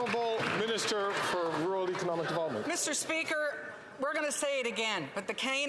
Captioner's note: some Applause